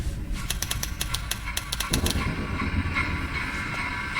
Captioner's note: button clicking